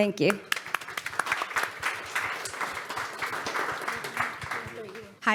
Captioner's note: audience applauds